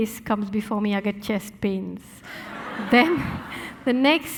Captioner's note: audience laughing